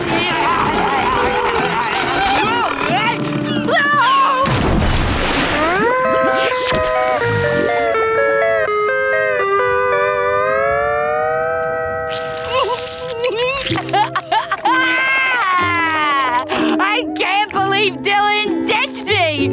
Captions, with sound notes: [screaming] [sobbing and crying] I can't believe Dylan ditched me!